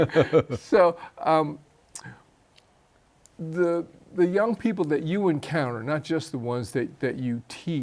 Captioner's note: chuckles